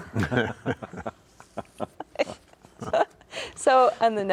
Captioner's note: laughing